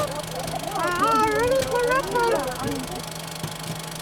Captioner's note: cinema projector rolls